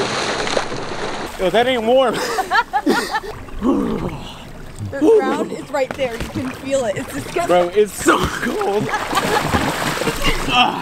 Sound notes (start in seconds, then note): 2.0 laughing; 8.0 laughing